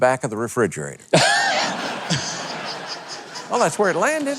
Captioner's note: audience laughs loudly